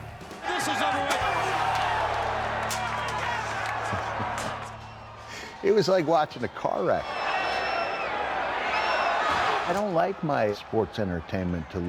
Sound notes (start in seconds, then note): 0.0 laugh; 0.5 applause; 1.9 laugh; 7.5 applause